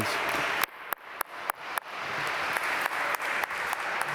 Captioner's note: applause